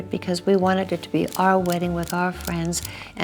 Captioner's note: camera clicking